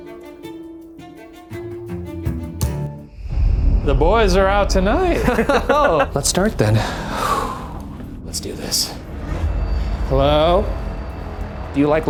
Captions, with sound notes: - The boys are out tonight! - Oh! (laughs) - Let's start then. Let's do this. Hello?